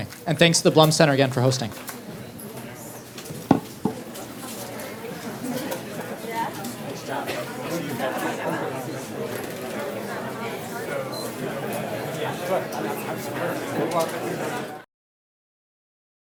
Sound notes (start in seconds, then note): 2.9 background chatter